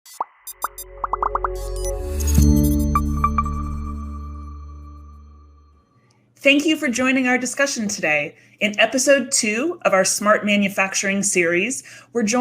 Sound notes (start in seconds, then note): 0.1 graphics popping; 0.6 light music